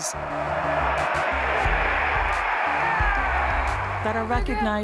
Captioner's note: crowd cheering